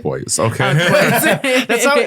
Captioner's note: laughing